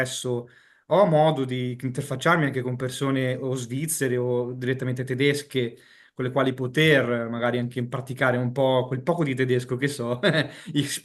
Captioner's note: speaks in Deutsch